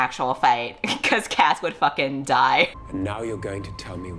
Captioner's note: laughs